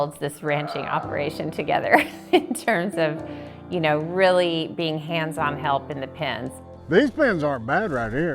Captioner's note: laughs